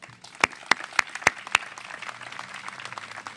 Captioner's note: applause